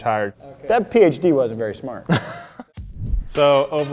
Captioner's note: giggles